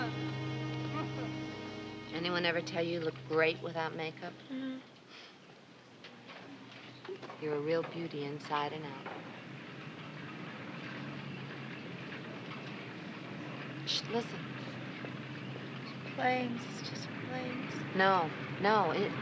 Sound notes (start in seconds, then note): 14.1 shushes